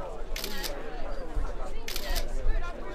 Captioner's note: camera snaps